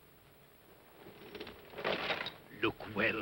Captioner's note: metallic rattling sound; irritated voice